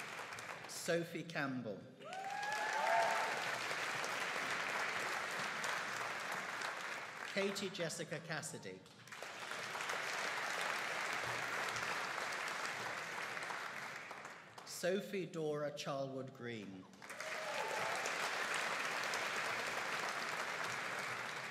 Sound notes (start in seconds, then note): 2.0 audience cheering and applauding; 9.0 audience applauding; 17.0 audience cheering and applauding